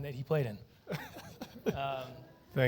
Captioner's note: laughter